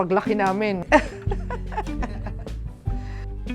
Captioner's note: laughs